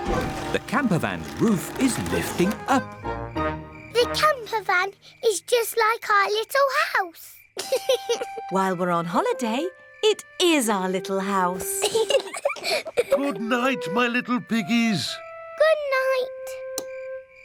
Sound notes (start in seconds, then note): 7.6 george laughs; 11.5 both laugh